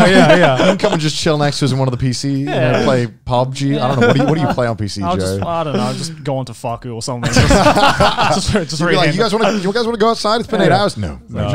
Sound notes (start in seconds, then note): 7.2 laughing